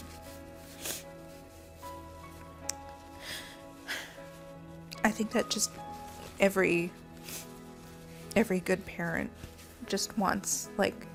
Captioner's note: sniffles